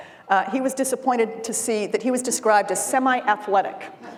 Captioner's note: laughter